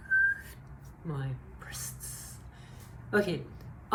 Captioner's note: whistles